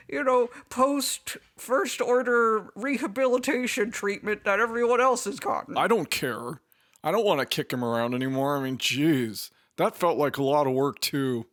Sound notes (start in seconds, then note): none